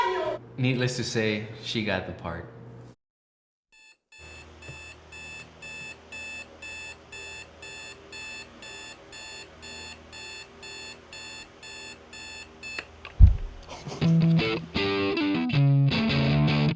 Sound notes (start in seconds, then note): 4.1 beeping